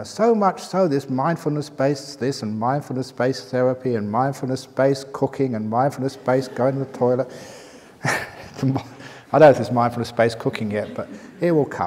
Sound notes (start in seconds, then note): 7.2 chuckle